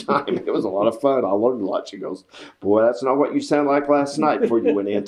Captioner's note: laughs